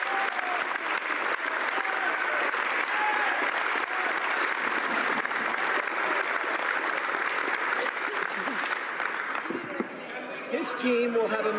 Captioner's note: applause